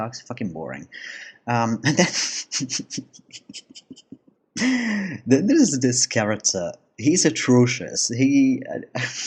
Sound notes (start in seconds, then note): 4.6 laugh